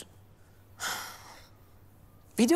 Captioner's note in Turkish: İç Çekiyor